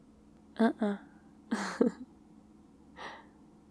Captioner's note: laughs